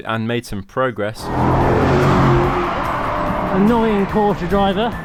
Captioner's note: car brumms